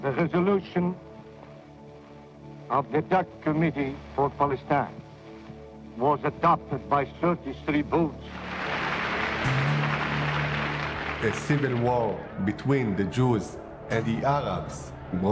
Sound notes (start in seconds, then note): 8.3 audience applauding